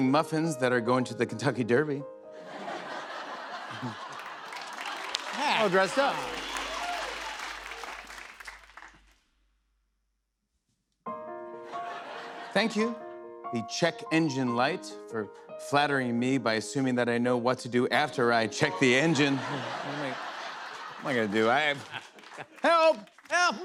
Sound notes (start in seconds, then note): 2.4 laughter; 18.9 laughter